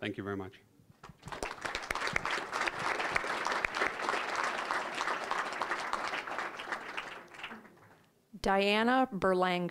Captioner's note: applause